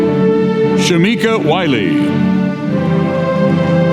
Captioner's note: none